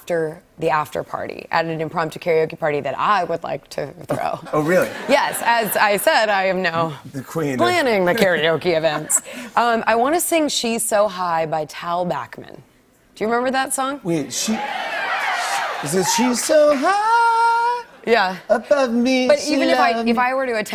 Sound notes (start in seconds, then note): 14.2 cheers